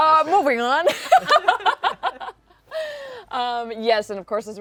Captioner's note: laughter